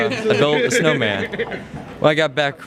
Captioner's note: laughing in background